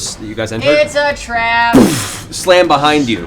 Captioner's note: singsong